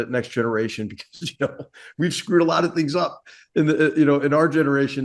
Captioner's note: laugh